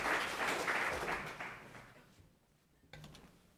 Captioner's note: applause